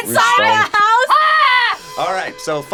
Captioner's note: screams